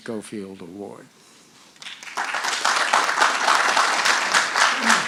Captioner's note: audience applauding